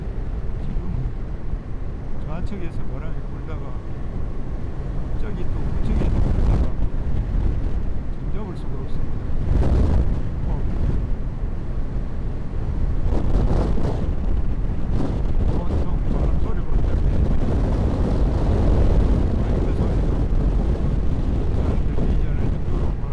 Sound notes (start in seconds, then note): 13.0 insane wind noise